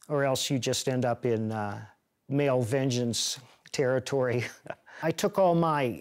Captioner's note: chuckles